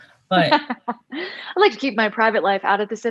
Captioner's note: laughs